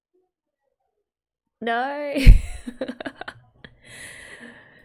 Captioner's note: laughs